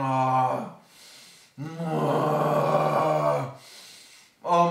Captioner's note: inhale; sniff